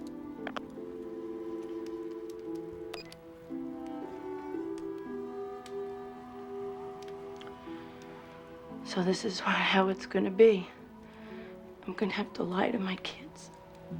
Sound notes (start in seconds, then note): 0.2 receiver clicking; 2.8 phone beeps